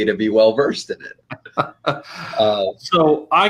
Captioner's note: laughter